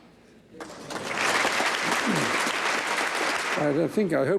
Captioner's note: audience applauds